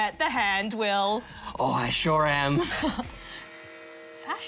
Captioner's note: laughs